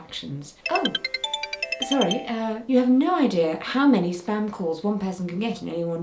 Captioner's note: phone is ringing